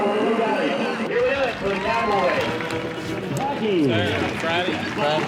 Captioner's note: crowd cheers